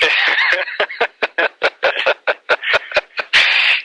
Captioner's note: both laugh